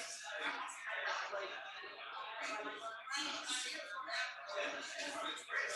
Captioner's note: people chattering indistinctly